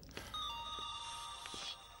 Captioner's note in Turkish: telefon çaliyor